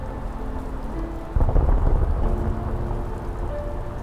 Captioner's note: storm thundering